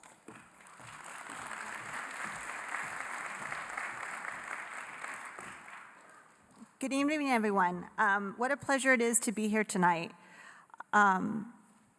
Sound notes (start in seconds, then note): 0.0 applause